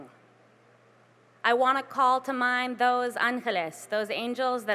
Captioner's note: spanish